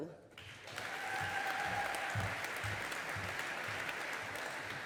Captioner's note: audience applauding